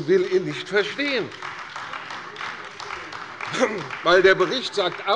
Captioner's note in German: Beifall bei der CDU